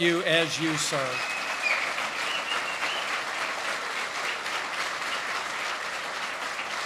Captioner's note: applause